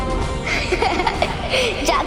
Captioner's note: giggles